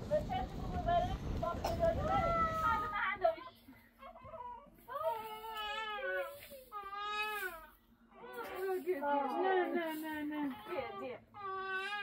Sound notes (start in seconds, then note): 4.9 sound of crying baby